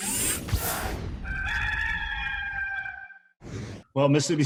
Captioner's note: rooster crows